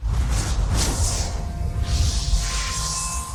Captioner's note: swoosh